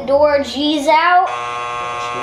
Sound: buzzer buzzing

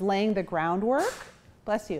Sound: sneeze

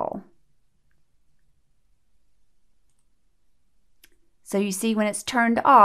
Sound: click

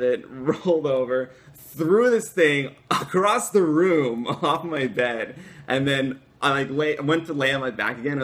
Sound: laughter

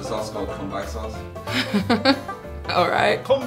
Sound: laughs

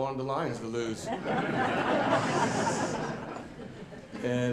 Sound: audience laughing

